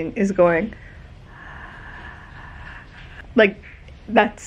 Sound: breath sound

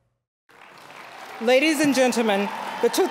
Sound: applause, cheering

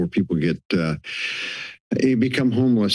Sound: inhales

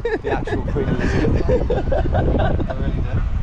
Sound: laughs

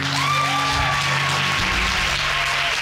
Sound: audience whooping

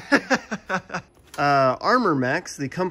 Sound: laughter

